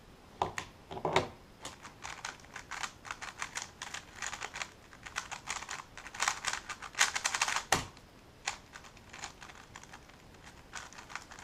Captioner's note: cube noises